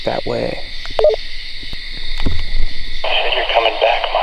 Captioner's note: walkie beeps